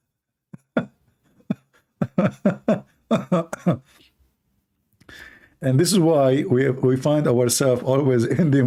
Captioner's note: Ketawa